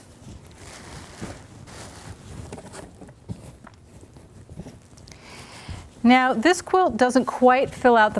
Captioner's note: paper rustling